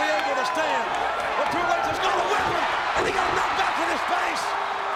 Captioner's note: presenter speaking faintly off mic; crowd cheering